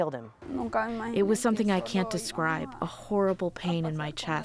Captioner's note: through translator